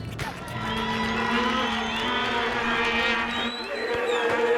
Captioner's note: crowd cheering